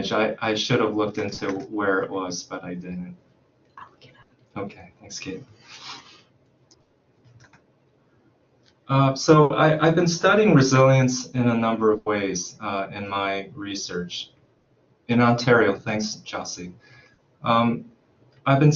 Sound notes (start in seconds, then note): 3.7 whisper